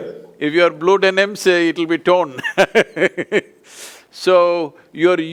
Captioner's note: laughs